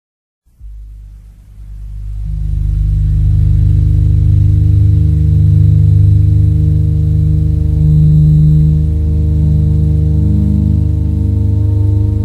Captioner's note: rising outer space noise